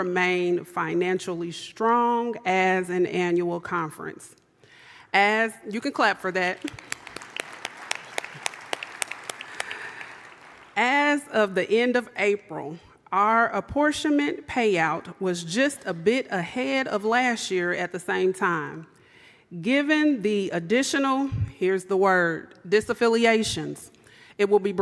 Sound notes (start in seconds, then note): 11.2 applause